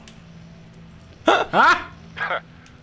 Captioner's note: laughs